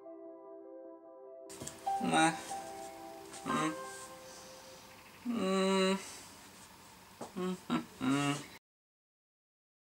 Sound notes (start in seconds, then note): 2.0 sad moaning